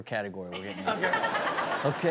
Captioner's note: Chanel chuckles